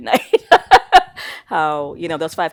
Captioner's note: laughing